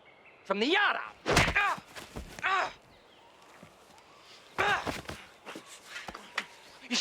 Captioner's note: thudding; Jim grunting